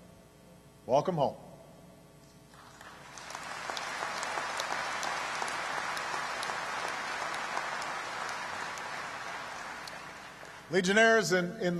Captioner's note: applause